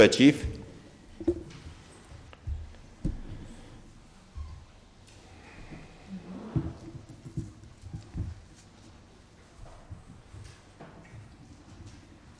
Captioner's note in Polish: brak głosów z sali